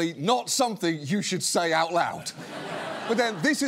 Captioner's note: laughter